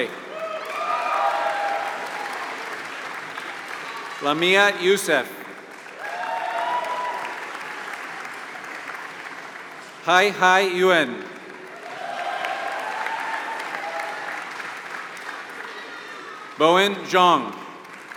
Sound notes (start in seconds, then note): 0.0 applause